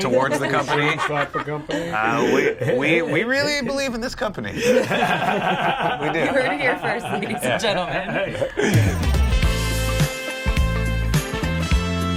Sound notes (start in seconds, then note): 4.6 everyone laughs; 8.1 funky music